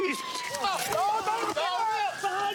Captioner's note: yells